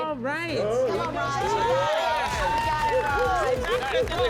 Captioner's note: applause